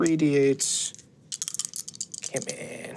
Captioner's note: dice clinking